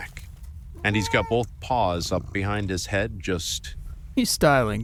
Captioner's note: purring cat can be heard in the background